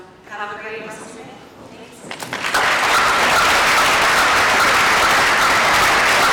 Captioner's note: applause